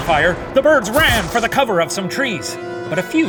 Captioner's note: gun blasting